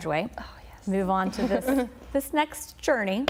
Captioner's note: laughter